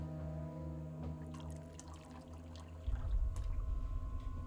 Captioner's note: liquid pouring; tense music